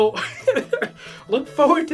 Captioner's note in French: qui se met à rire